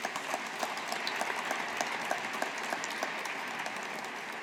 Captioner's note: audience applauding